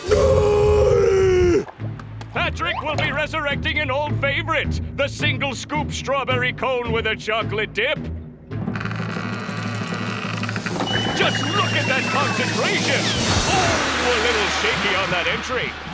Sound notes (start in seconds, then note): 6.5 plank creaking